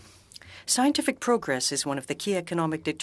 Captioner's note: speaking French